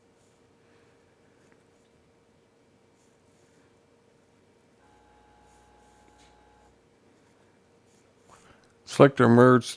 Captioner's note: silence